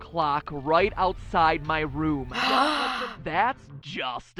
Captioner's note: gasping